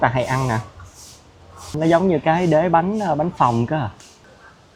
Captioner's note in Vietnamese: khịt mũi